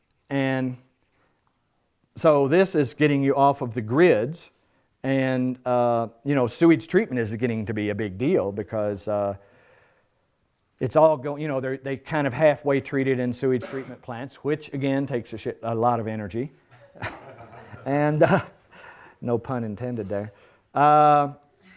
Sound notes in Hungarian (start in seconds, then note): 16.7 nevetés